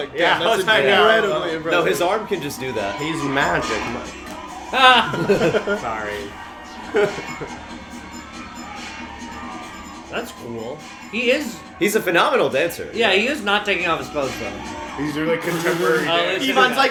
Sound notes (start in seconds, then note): 4.8 laughter